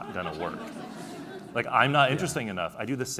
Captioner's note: laughing